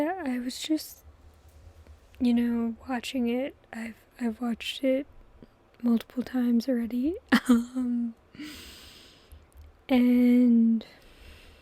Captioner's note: laughs